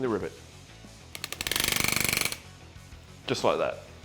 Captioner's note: rivet gun grinding